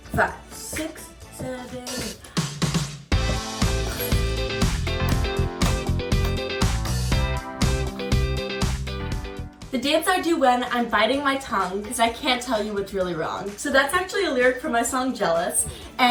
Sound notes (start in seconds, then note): 3.0 energetic piano music; 4.1 hands clapping